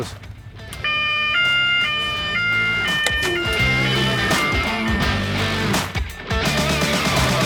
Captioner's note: rock music continuing; alarm blaring